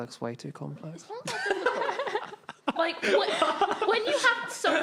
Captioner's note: laughing